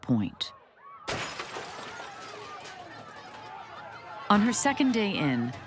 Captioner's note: glass shatters, shouting continues